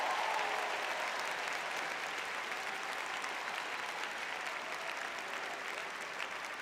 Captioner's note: cheering